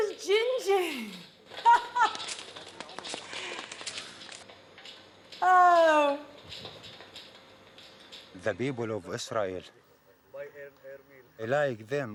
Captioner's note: laughter